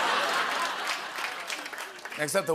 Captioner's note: laughter and applause